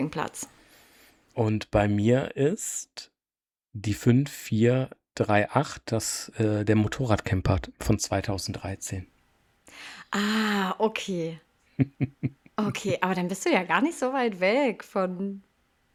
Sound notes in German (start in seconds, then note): 7.9 seufzt; 9.6 japst